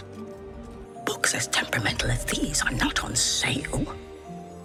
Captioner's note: whispers